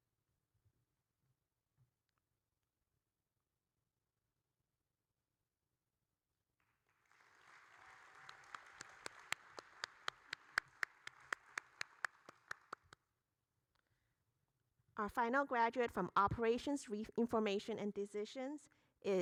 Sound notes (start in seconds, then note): 6.7 audience and applauding